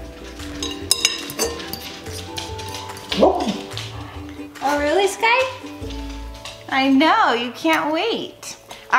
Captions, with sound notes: (Sky barks) Oh really, Sky? I know, you can't wait.